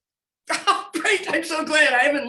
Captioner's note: laughs